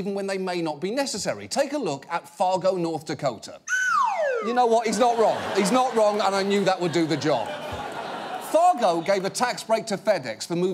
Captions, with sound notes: even when they may not be necessary. Take a look at Fargo, North Dakota. -(SLIDE WHISTLE DESCENDING) -You know what, he's not wrong. He's not wrong and I knew that would do the job. Fargo gave a tax break to FedEx